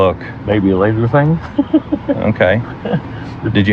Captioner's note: giggles